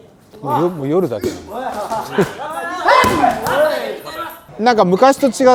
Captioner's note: laughs